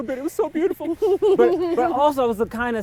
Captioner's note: laughs